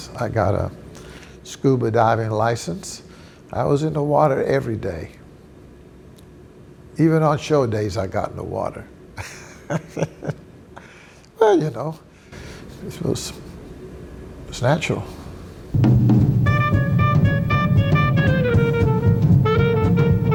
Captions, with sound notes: I got a scuba diving license. I was in the water every day, even on show days I got in the water. (laughs) Well, you know, this was, it was natural. (bright jazz music)